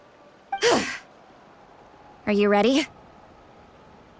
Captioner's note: exhale